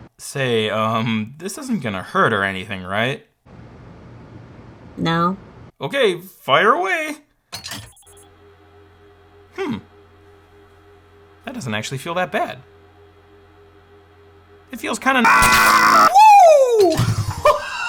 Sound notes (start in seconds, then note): 7.8 machine humming; 15.2 screaming